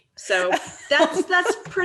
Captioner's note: laughing